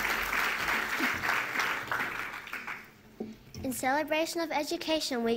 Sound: appuse

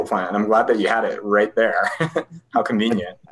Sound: laughs

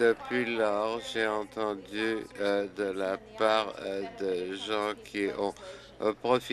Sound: applause

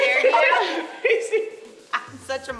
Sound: laughing

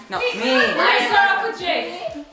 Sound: arguing

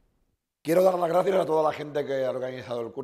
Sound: speaking spanish

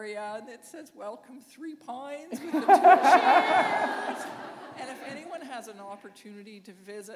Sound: laughter

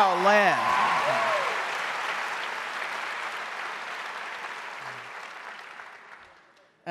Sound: audience cheering and applauding

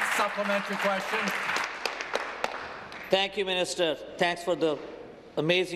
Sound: applause

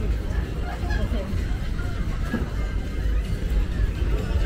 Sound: laughs

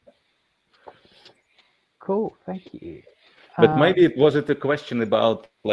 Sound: laughing

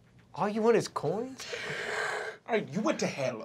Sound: sobbing

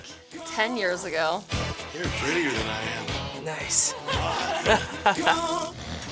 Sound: laughs

